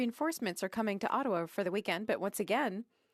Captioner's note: speaking French